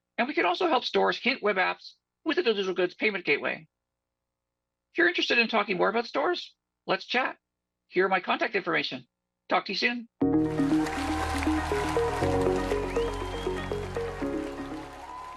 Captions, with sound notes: And we can also help stores hint web apps with a digital goods payment gateway. If you're interested in talking more about stores, let's chat. Here is my contact information. Talk to you soon. [APPLAUSE]